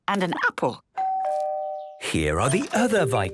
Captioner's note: doorbell rings